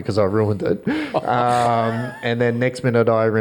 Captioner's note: all laugh